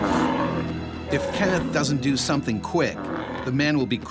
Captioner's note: voiceover